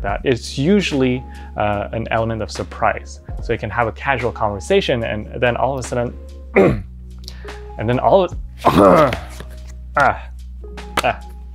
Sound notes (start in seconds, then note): 6.5 clears throat; 8.6 gagging